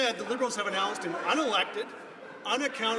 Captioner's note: some Applause